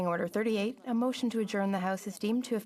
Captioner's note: speaking French